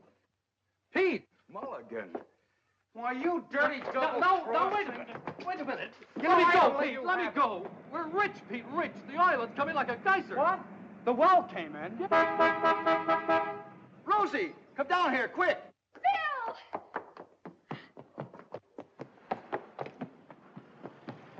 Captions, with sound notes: - Pete! - Mulligan! Why you dirty, double-crossing-- - No, no, now wait a minute! Wait a minute! - You know, I ought to let you have it! - Let me go Pete! We're rich Pete, rich! The oil, it's coming like a geyser! - What? The well came in? - Yeah! (horn honks) - Rosie, come down here quick! - Phil! (Rosie's footsteps scrambling)